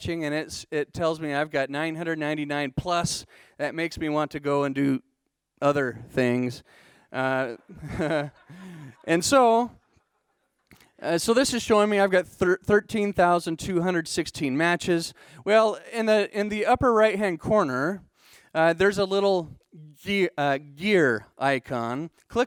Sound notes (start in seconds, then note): 7.4 laughing